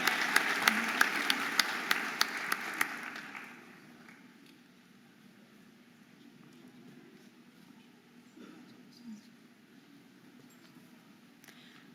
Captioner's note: audience applauding and cheering